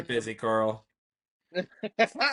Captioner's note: laughter